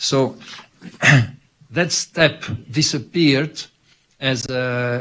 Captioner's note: clears throat